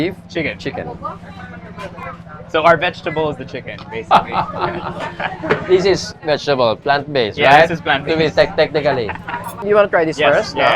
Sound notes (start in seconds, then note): 4.0 laughs